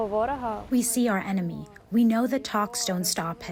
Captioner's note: through translator